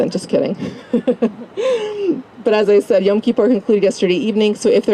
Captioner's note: laugh